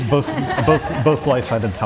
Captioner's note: audience Laughing